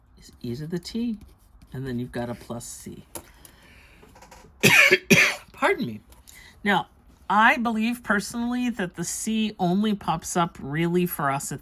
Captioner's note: coughs